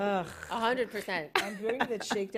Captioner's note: laughter